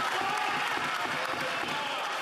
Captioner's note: yelling